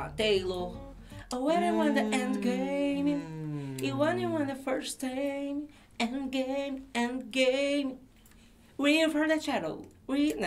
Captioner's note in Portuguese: Blogueirinha cantarola